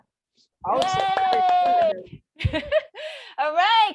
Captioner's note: moderator applauding